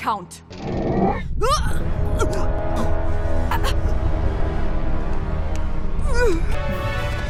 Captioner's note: Miraj choking